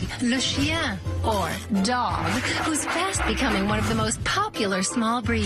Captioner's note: speaks in foreign language